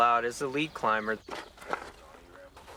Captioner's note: voiceover